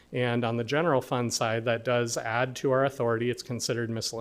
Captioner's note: none